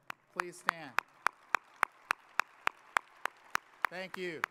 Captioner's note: audience applauding